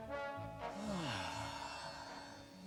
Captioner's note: he sighs